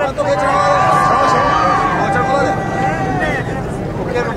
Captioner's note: crowd cheering